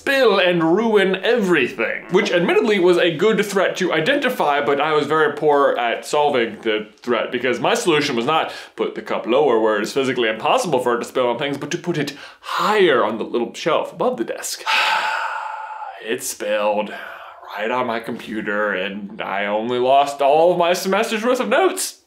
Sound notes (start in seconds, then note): 14.6 siiiiiiiiiiiiiiiigh